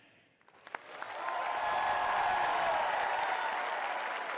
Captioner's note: cheering